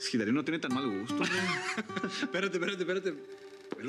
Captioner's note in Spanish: carcajadas